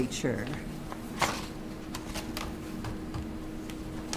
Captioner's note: paper rustles